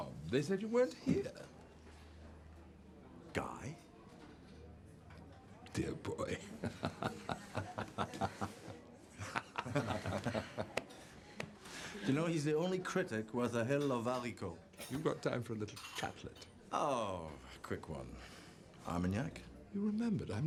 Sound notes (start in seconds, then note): 6.3 laughs; 10.0 Rob laughs; 14.3 speaking in foreign language